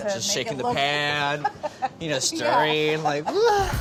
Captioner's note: laughing